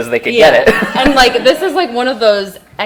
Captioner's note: laughing